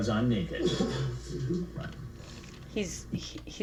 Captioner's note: laughing